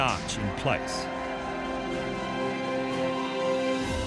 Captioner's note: clamoring; triumphant music